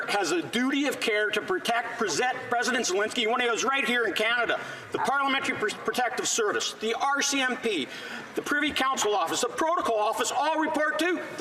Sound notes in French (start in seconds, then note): 2.1 voix de l'interprète